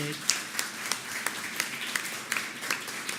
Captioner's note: applause